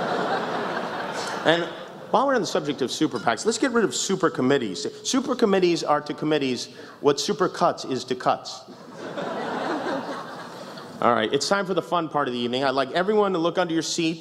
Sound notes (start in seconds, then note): 8.9 meak laughter